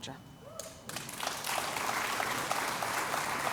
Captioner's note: applause